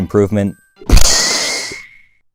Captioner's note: kerboom